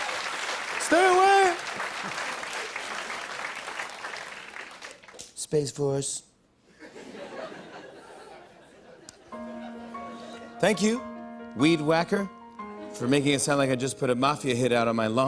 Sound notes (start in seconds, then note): 0.0 laughter and applause; 4.6 As Trump; 6.5 light laughter; 9.3 soft piano music plays; 9.5 normal voice